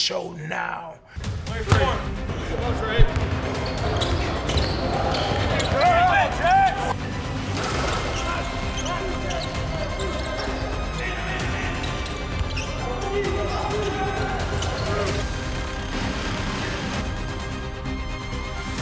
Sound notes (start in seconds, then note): 2.9 ball bounces; 3.9 intense music; 7.1 players shouting; 7.1 shoes squeaking; 15.2 intense music continues